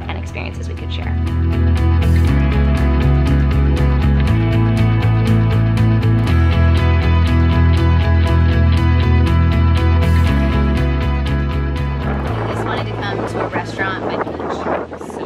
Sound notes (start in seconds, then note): 1.4 gentle cheerful music; 12.2 wind blowing